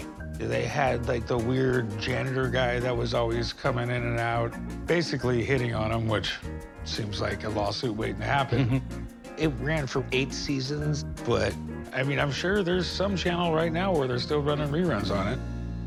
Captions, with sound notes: - They had, like, the weird janitor guy that was always coming in and out. Basically hitting on them which seems like a lawsuit waiting to happen. - [chuckles] - It ran for eight seasons. But I mean, I'm sure there's some channel right now where they're still running reruns on it.